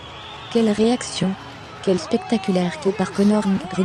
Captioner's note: crowd cheering